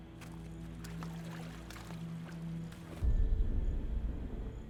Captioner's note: water splashing